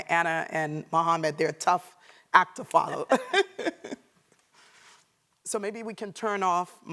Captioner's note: laughs